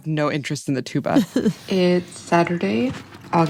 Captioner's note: laughs